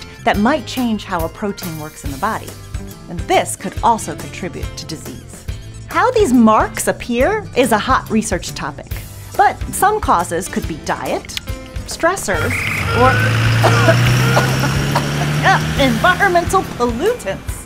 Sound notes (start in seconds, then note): 12.4 coughing